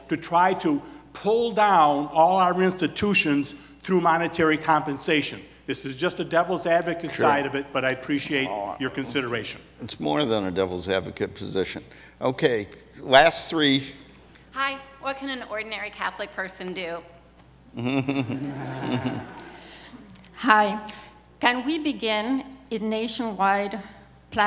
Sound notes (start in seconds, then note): 17.8 audience laughs